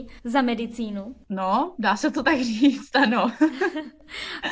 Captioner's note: laughter